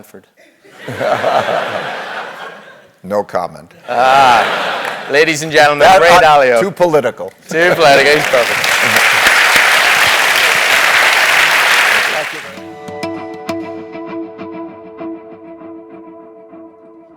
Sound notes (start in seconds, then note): 0.0 laugh; 7.6 applause